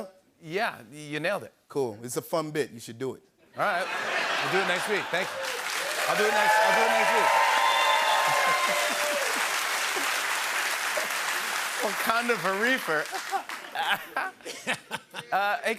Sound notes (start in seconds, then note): 3.7 laughter; 7.7 cheering, whistling, and applause; 13.0 laughter